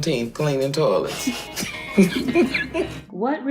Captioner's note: Turquoise and Betty laugh